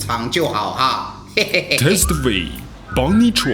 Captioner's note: laugh